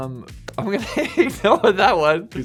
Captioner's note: laughing